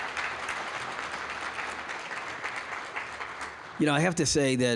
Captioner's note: applause